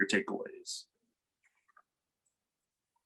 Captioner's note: silence